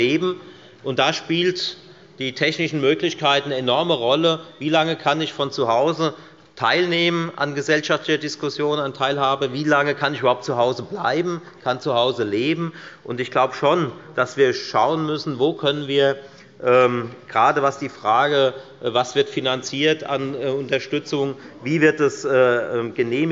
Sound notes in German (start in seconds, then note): none